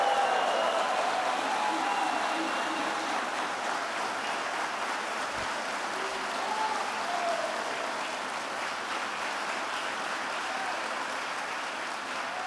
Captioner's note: applause